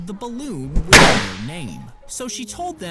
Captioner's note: balloon pops